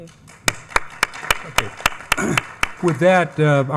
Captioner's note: attendees clapping